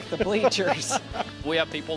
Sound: laughter

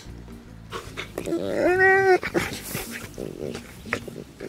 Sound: dogs growling

